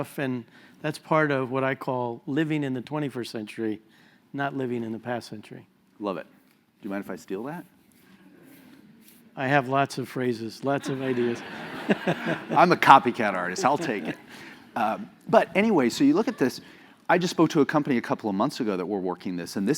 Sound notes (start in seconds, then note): 10.8 laugh